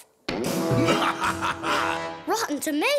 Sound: evil laugh

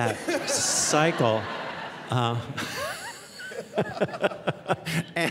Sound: audience laughing

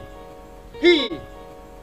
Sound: exhales

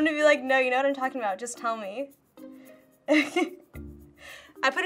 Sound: chuckles

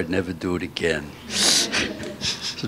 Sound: laughter

